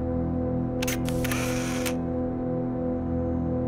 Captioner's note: camera click